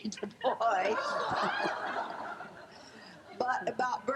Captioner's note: laughing